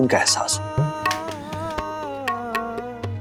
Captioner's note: claps